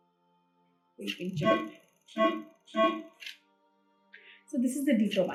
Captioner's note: machine beeping